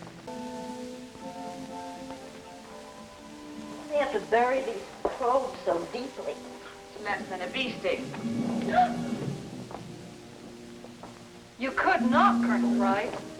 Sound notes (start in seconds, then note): 0.2 upbeat instrumental music; 8.6 Katie gasps